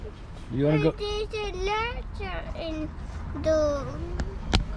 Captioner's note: foreign language